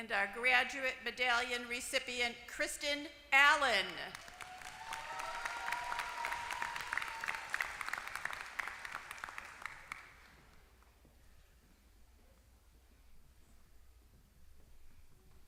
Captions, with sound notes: And our graduate medallion recipient Kristen Allen. >> [APPLAUSE]